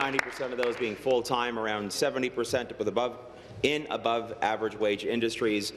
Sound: applause

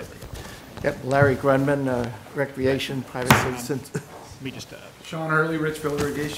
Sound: papers rustling

